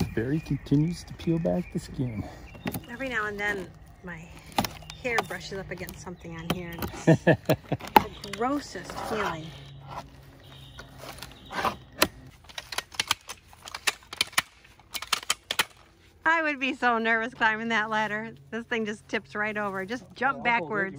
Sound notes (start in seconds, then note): 9.8 peeling back panel; 12.6 ladder clicking